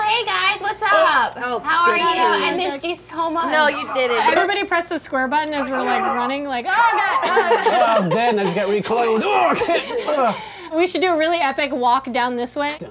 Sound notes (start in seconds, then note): 9.1 grunting